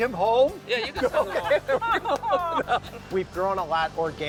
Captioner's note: all laugh